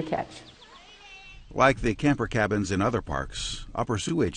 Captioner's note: voiceover